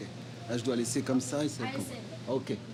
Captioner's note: speaking foreign language